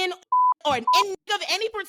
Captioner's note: beep